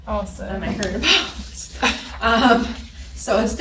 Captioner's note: laughs